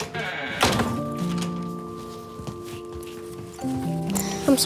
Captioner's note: door thudding